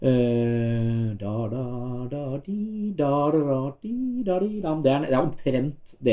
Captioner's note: hums first 4 bars of theme